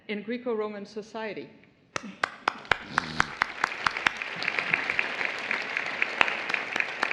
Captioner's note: applause